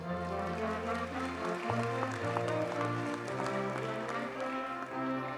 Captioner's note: audience cheers and applauds